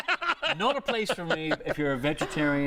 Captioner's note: laughter